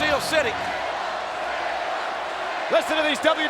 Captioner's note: crowd chanting "Sable"